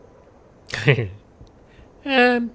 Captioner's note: giggles